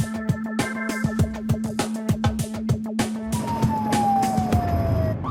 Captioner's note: sirens wailing